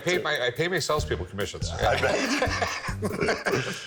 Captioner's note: all laugh